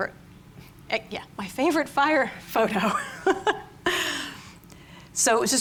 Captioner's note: laughs